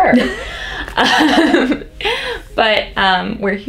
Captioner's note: laughs